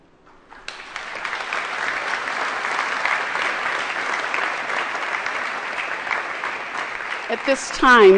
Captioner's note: applause